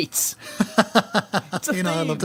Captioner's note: laughing